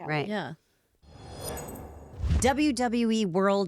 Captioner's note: scene whooshing